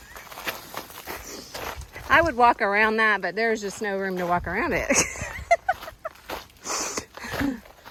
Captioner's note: laugher